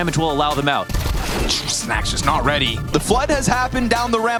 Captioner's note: gun firing